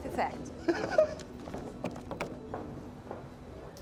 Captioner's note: Tom laughing